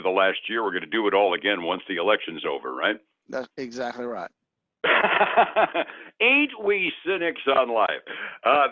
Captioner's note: laughs